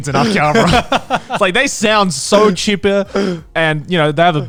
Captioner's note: laughs